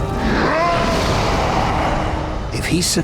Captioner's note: roaring